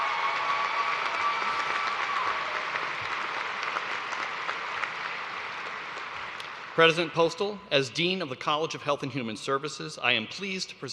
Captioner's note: cheers and applause